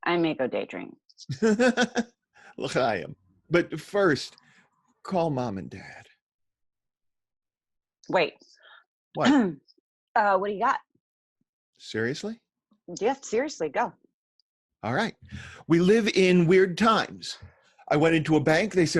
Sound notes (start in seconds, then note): 1.3 Daniel laughs; 3.0 Daniel speaks foreign language